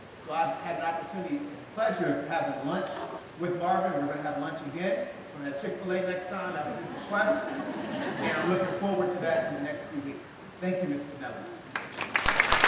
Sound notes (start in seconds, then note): 6.6 laughing; 11.7 clapping